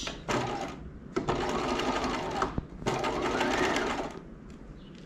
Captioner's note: sewing machine whirling